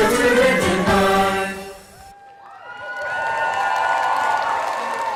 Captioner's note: applause